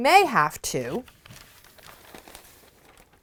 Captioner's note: crinkling paper